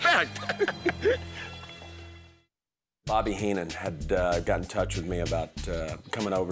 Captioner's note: laugh